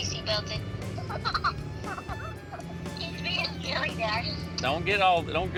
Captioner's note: laughing